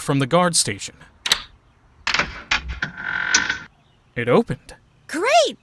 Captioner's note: lock clicks